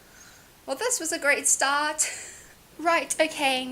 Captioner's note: laughs